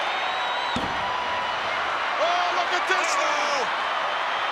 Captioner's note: fist pounding